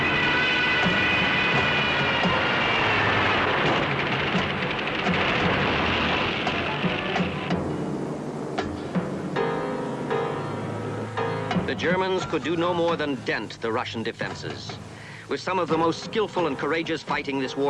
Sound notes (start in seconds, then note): 4.2 guns firing